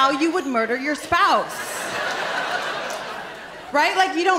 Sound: laughter

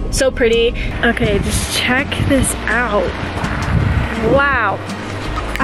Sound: wind blowing

